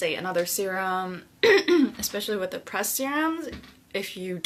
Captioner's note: clears throat